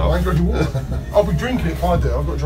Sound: laughs

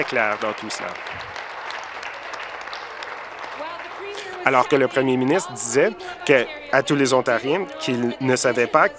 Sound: applause

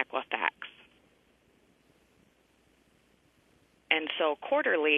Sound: pause

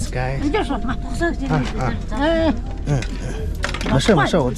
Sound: woman speaks mongolian

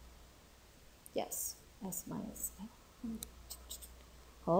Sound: vocalizes

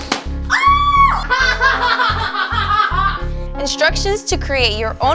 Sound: laughing

